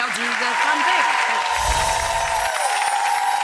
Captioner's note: applause